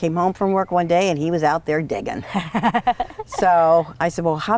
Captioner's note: laughs